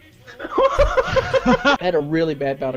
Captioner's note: man laughing